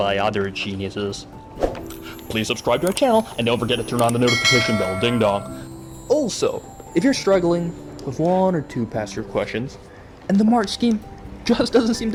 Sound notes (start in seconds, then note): 5.3 ding dong